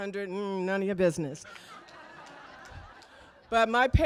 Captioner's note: laughter